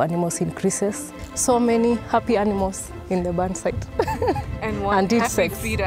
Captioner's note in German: lacht